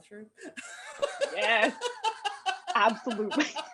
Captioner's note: laughter